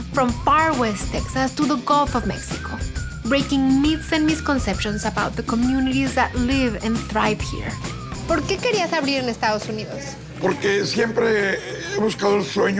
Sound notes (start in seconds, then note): 8.5 speaks Spanish